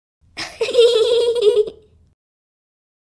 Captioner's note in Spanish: Riéndose